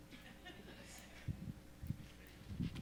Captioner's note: laughter